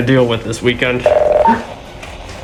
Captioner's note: radio beeps